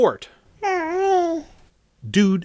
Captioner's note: baby gibberish